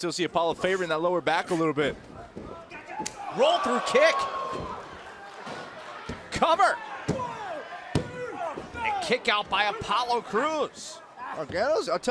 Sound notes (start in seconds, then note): 7.9 crowd chatter